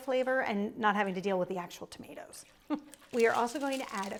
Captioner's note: chuckles